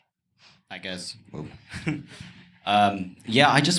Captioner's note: chuckles